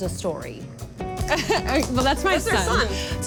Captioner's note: laughs